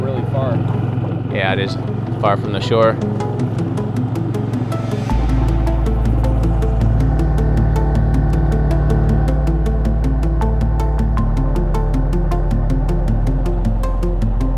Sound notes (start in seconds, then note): 3.2 light music; 5.1 boat rumbling